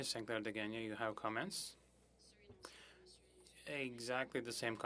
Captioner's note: speaking French